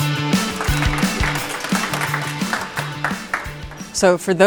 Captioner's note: applause